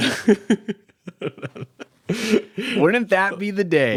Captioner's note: both laughing